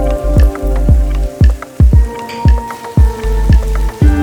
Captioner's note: frying